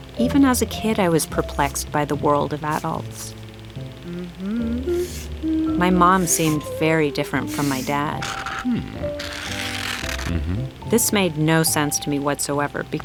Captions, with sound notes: Even as a kid I was perplexed by the world of adults. (mother hums) My mom seemed very different from my dad. This made no sense to me whatsoever